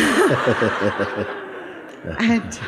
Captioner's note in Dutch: gelach